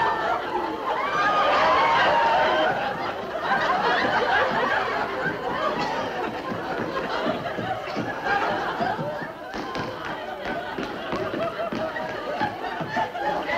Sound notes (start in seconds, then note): 7.2 running footsteps